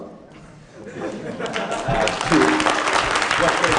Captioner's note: laughing and applause